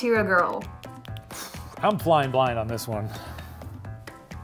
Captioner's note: exhales